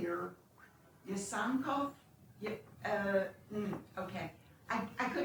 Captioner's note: non-english